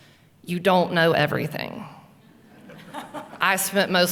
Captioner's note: laughing